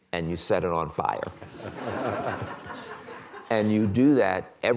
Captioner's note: laughter